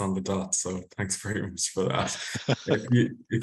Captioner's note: laughs